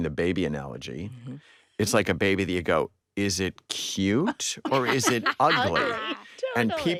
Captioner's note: all chuckling